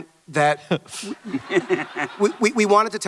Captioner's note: Hardwick chuckles; audience laughter